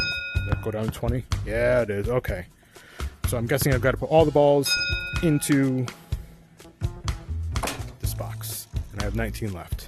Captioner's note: ding; ding